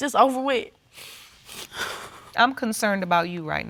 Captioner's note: sniffling